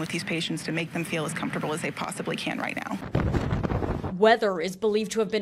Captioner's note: wind sound